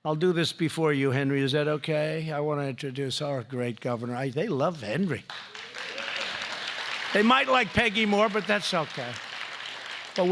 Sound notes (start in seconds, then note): 5.2 applause